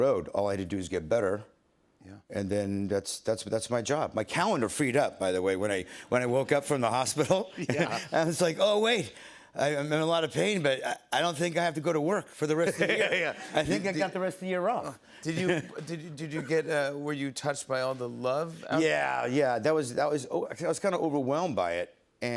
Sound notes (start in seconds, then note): 12.6 chuckling